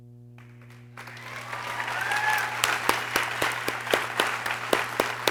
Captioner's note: people cheering